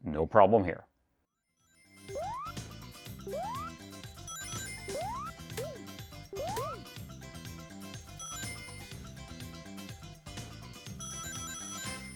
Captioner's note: frantic Ring Collecting Noises